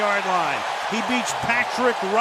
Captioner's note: cheering